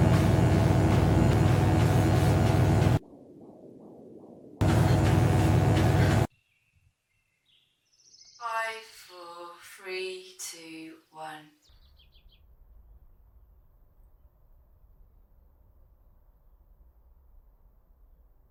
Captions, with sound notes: (electric buzzing) (heart beating) (electric buzzing) (birds chirping) Five, four, three, two, one.